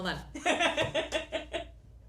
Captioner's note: laughs